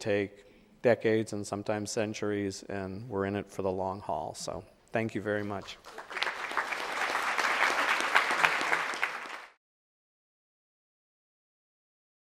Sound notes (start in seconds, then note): 5.7 audience applauding